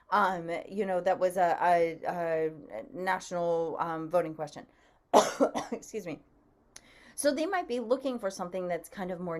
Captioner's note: coughs